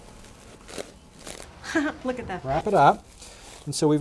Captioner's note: laughs